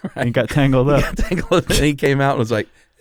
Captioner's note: laughs